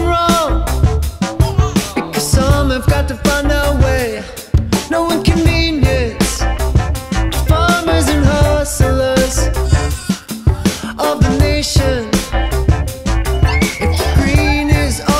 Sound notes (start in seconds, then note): 1.3 baby cooing; 9.4 baby cooing